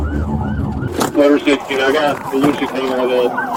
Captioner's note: radio chatter